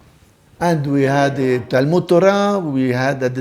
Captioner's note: Hebrew